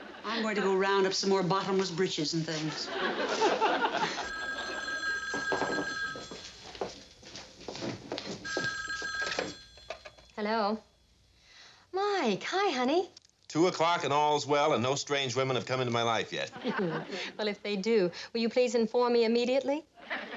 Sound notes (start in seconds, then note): 3.8 phone rings